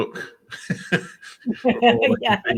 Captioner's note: laughs